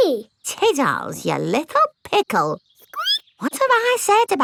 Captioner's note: squeaks